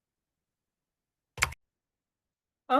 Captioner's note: mouse clicking